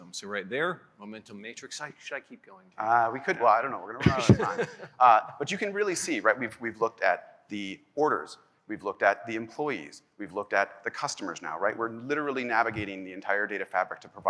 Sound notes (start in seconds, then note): 3.8 laughs